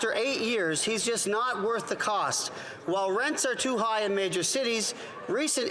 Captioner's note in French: voix de l'interprète